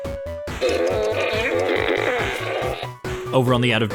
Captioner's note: laughs; robotic flatulence